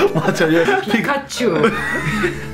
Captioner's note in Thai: เสียงแบบแมน ๆ